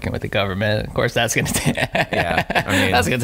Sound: laughing

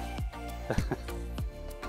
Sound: chuckles

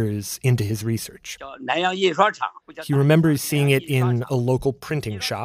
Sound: speaking Mandarin

